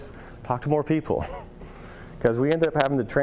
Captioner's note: chuckles